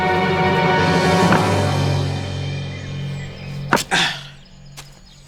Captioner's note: hammer Tapping